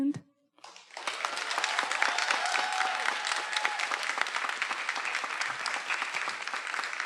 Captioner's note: everyone applauding; attendees cheering